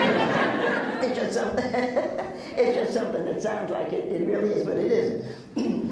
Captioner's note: laughs